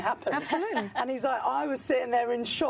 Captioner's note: laughs